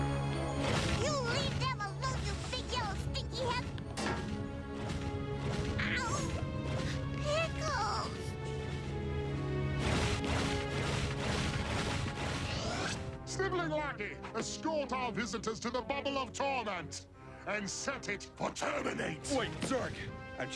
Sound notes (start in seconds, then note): 3.9 clunk